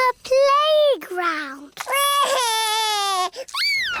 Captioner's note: crying